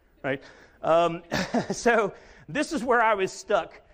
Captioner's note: chuckles